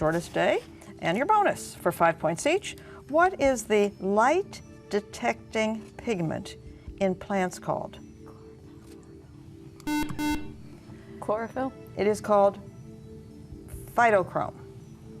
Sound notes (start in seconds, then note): 7.8 whispering; 9.8 buzzer